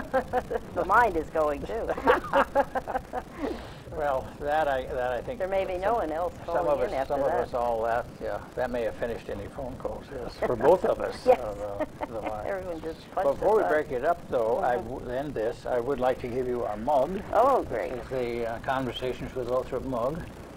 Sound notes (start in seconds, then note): 1.9 both laugh